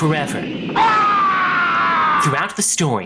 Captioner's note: screaming